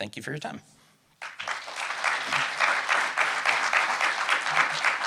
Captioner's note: audience clapping